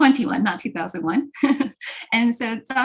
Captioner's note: laughter